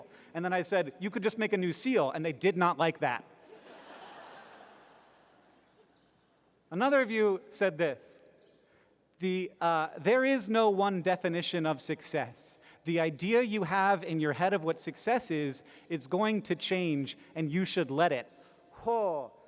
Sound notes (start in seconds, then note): 3.4 laughter